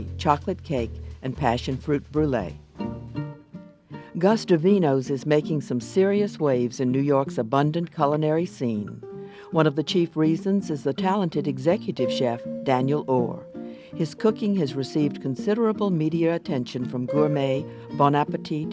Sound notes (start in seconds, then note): 2.8 jazz music; 4.1 voiceover